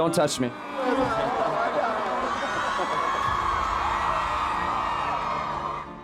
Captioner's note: audience laughing and cheering